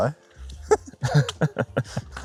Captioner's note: laugh